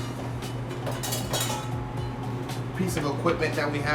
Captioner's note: clanging